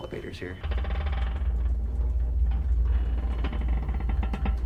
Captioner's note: elevator creaks